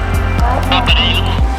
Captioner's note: foreign language